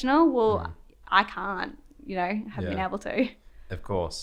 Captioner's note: laughs